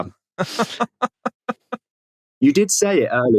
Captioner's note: giggles